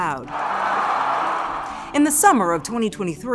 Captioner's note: audience cheering